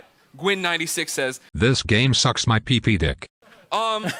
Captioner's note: text to Speech voice